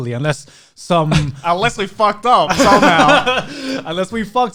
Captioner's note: guys laughing